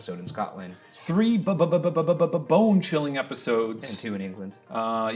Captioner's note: stuttering